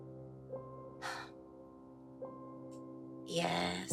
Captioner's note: Kimberly sighs